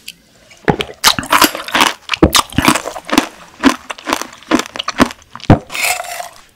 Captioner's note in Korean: 와 석류소리도 대박!!!